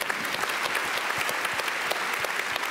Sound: applause

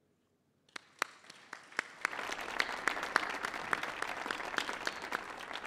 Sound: audience applauding

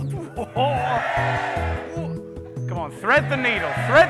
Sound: cheering

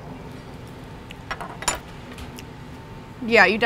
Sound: chewing

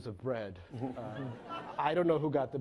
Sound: laughing

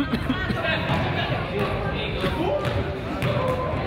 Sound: man coughs

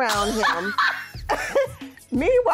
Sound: laughing

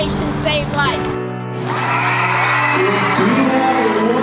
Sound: crowd cheering

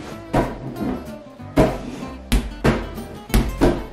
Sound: ball bouncing

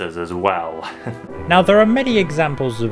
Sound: chuckles

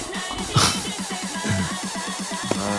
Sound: laughs

